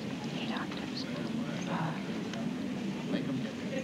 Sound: mumbling

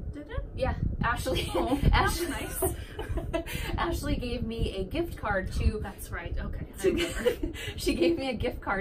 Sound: laughter

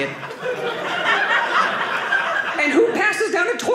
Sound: audience laughing

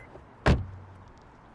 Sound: sound of door closing

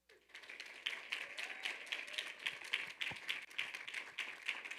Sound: audience applauding

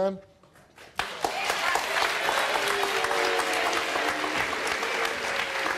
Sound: audience applauds and cheers

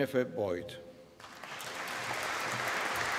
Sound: applause

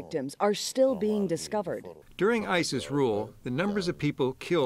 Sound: through translator

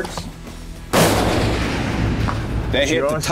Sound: gunshot

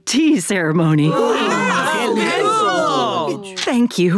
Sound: indistinct chatter

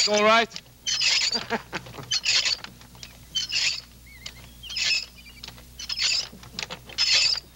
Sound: Royal chuckling; butter churn squeaking

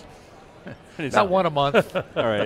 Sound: hosts chuckle

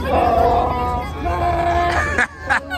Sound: Chewbacca roars; roars; laughing

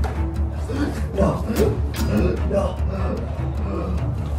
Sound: gasps

